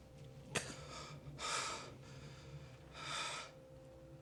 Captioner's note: breathing hard